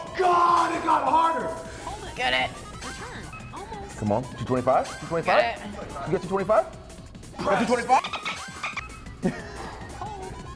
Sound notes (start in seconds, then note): 7.3 laugh